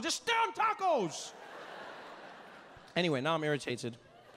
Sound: audience laughing

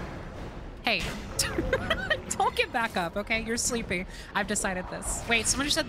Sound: laughing

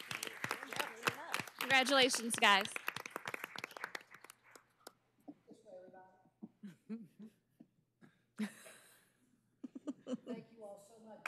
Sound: cheers and applause

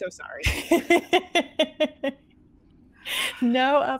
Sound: laughter

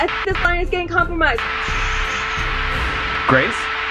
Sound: static

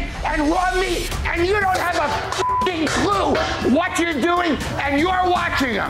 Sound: beeps

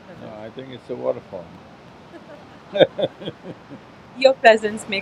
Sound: laughs

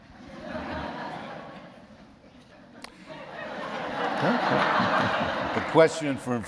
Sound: laughter

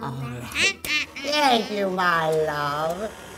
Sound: cackling

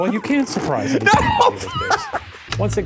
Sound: bucket booms

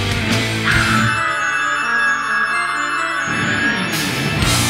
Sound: screams

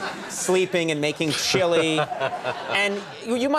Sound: laughter

